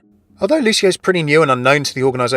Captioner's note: voiceover